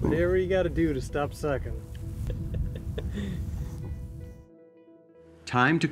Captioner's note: chuckling